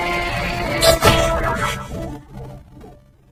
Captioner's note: groans, gasps